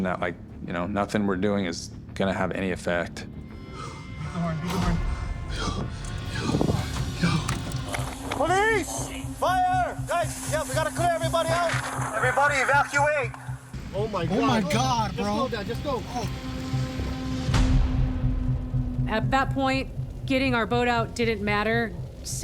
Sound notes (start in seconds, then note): 5.0 gasping